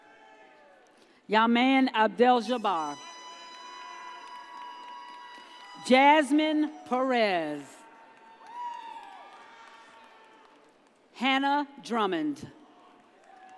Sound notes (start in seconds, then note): 3.5 audience cheers; 8.1 audience cheers